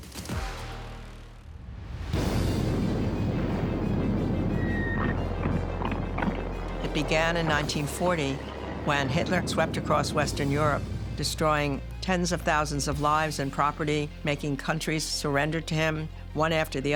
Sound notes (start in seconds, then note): 2.3 dramatic music; 2.3 explosions booming